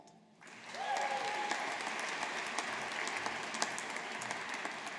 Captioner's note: audience applauding